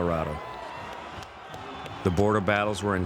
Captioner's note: crowd cheering